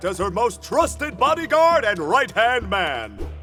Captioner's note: none